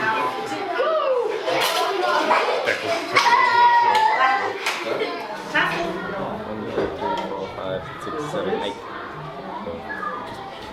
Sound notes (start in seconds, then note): 2.9 kids cheering